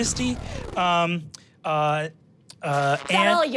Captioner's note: engine powering down; static crackling